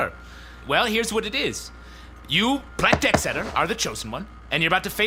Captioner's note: fabric rustling